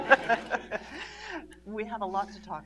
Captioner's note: laughter